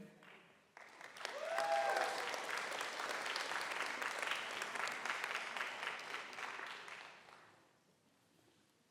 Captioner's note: applause